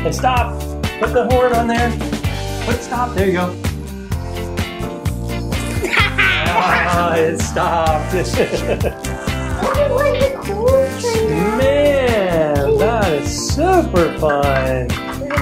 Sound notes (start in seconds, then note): 5.9 laughing